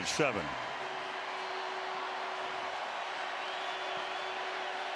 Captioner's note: cheering